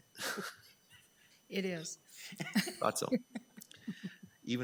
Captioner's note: people chuckling; laughing